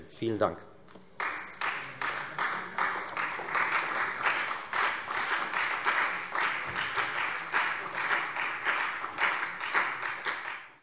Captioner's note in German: Allgemeiner Beifall